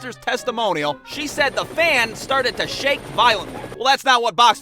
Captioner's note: helicopter blades sounds